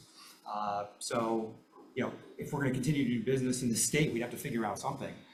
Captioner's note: none